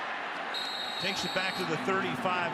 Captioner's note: whistle blows